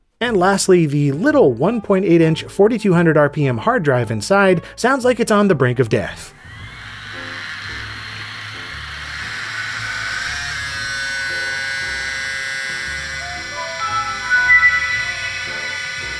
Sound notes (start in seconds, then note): 6.8 Model 02 whirs to life; 9.2 grinding hard disk noises; 13.2 Vista startup sound, overwhelmed by noise